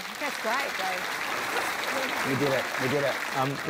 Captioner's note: applause